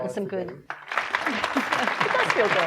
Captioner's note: audience applauding